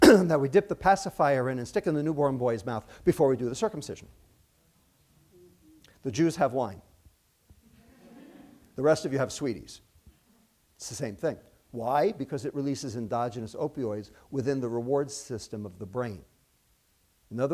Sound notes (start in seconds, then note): 7.7 laughter